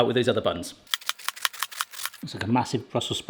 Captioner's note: knife ticking